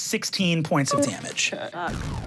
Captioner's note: computer beeps; engine powering down